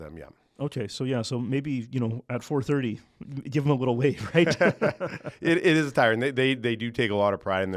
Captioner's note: laughs